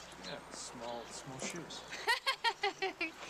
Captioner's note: woman laughing